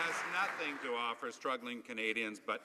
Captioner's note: some Applause